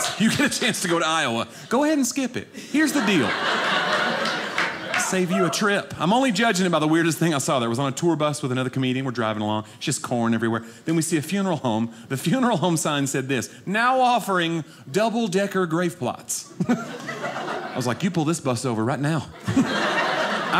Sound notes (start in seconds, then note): 2.7 audience laughing